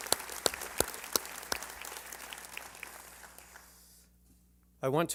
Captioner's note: applause